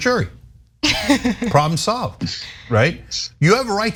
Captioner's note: laugh